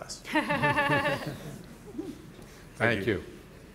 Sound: panelists chuckling

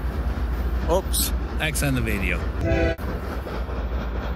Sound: train horn

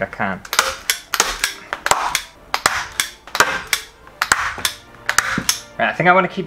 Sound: staple Sounds

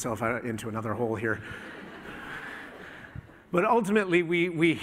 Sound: laughter

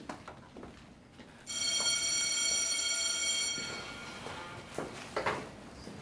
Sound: school bell ringing

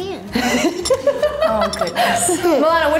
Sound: laughing

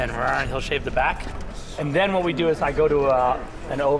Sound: imitates whirring

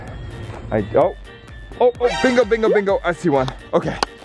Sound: alarm

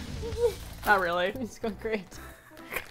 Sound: laughs

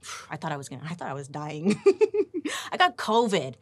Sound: laughing

